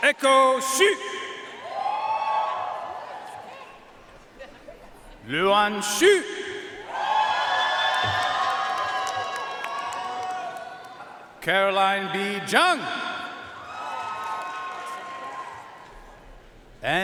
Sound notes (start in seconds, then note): 1.6 audience cheering and applauding; 6.8 audience cheering and applauding; 13.5 audience cheering and applauding